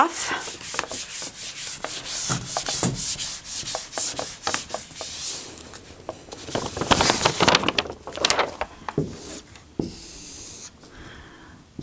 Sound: sound of writing

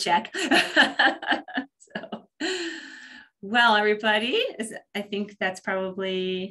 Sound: laughs

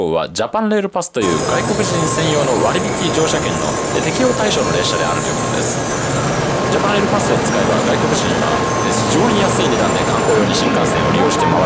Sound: explains reason in Japanese

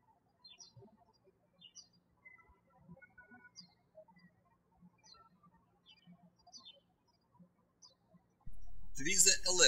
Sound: birds chirping

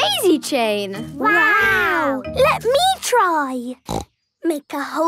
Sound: snorting

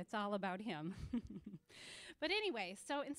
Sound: chuckling

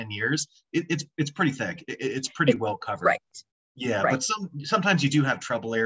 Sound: talking

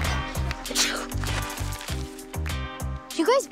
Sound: Harmony sneezes

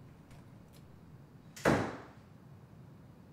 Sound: door closes

